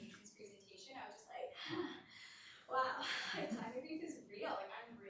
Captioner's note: sighs